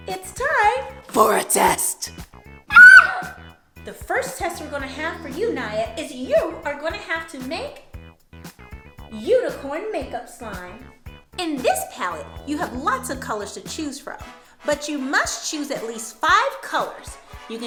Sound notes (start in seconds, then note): none